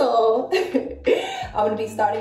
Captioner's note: chuckles